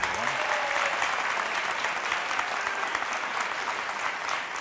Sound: audience applause

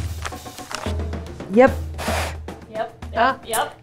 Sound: snorts

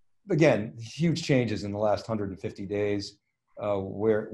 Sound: none

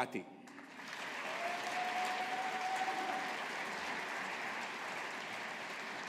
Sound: audience applauding

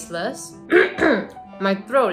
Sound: clears throat

